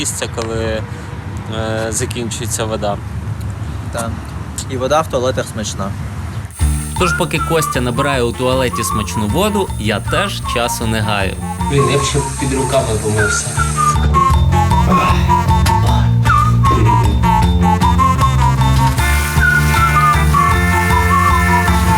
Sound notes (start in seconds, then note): 14.8 sighs heavily; 18.8 water splashing